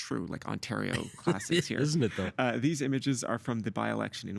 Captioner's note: laughing